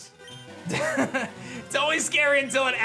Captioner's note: giggles